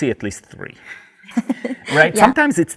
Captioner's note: laughs